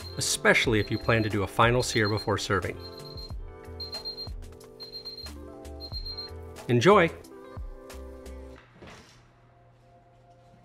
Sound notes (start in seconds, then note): 4.1 device beeping